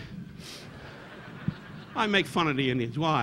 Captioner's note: audience laughing